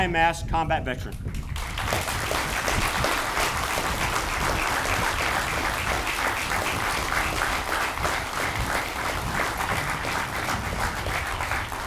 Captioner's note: audience applauds